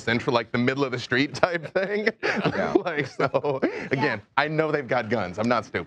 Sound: laughing

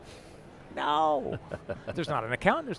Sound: laughter

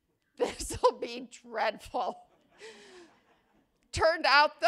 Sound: laughter

